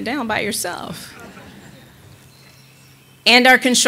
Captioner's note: audience laughing